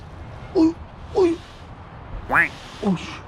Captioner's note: struggling